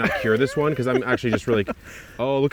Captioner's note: laughing